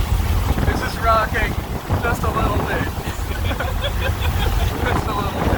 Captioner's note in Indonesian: tertawa